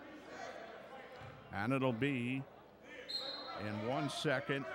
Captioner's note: whistle blows